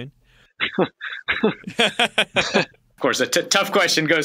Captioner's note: laughing